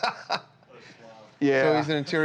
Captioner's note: laughter